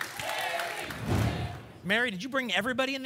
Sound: whoosh

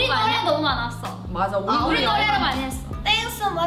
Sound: speaking in Korean

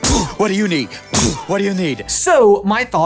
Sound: poof

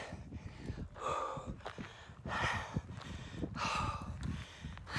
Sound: breathing heavily

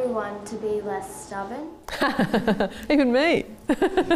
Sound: laughter

